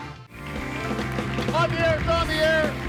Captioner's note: lively music; audience applauding